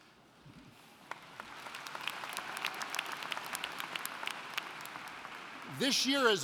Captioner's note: applauding